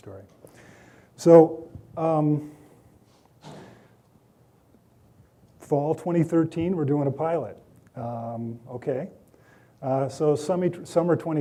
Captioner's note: door shutting